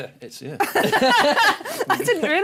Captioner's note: laughing